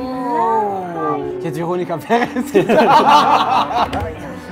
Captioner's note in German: Lachen